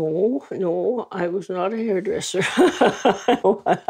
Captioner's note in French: rire